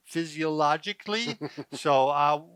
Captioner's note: laughter